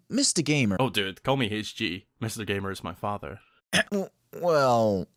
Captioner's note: coughs awkardly